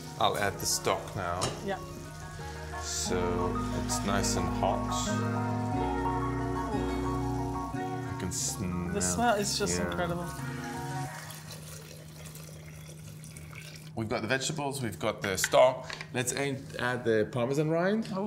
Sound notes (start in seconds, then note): 4.9 upbeat music; 11.6 water pouring